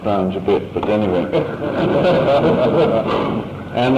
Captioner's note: laughter